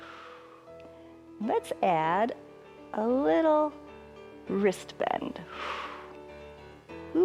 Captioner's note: exhales